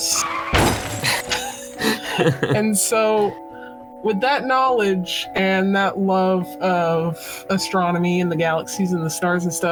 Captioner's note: laughter